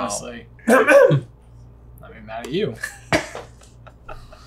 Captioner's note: clearing his throat; laughing